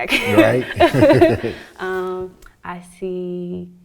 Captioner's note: laughs